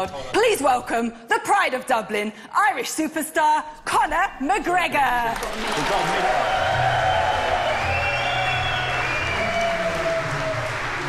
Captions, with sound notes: PLEASE WELCOME THE PRIDE OF DUBLIN, IRISH SUPERSTAR CONOR McGREGOR. [ audience applauding ]